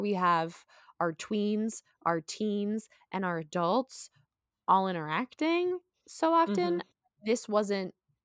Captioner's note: mhmm